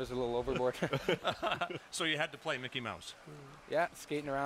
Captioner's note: laughter